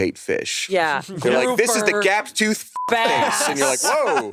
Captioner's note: beep